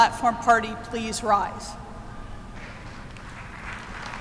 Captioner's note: applause